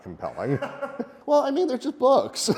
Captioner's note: laughs